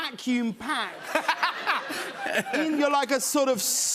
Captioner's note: laughter